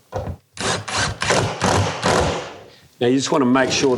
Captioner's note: electric drill sound